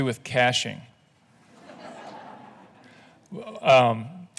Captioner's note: laughing